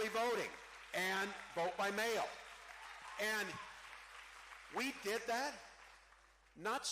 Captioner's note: cheering